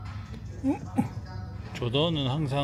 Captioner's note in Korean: 끙차